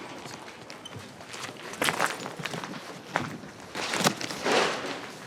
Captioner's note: shoes crunching